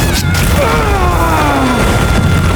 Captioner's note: painfull yell